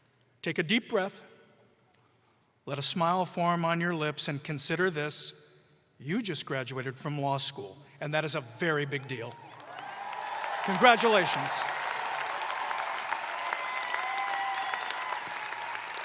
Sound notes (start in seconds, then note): 3.5 cheers and applause